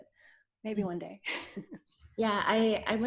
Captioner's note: laughs